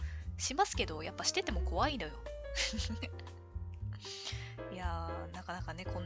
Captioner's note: laughs